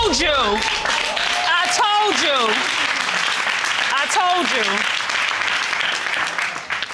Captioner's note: audience applauding